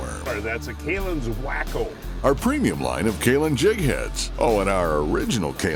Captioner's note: voiceover